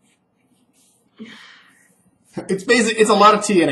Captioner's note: sighs